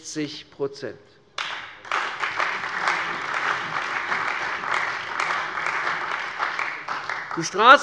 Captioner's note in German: Beifall bei der CDU und dem BÜNDNIS 90/DIE GRÜNEN